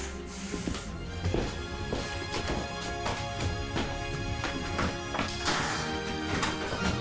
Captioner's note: suspenseful music continues; majestic music; footsteps thud